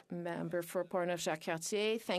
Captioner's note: speaking French